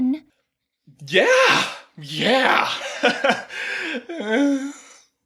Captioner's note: nervous laughter